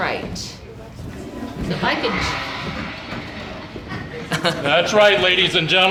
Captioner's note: toilet flushing